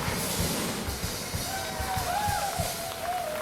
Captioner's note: all applauding; all cheering